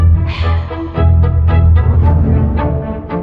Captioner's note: sighshshs